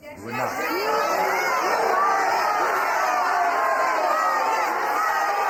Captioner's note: audience screaming